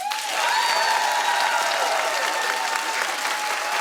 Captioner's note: applauding